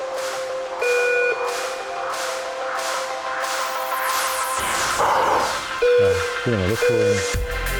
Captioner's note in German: Piepsen